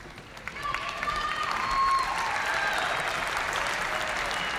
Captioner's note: audience cheering